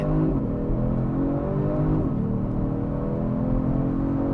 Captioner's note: car engine roaring